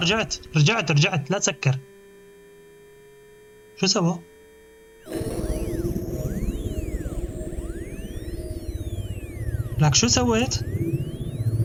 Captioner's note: sirens; groaning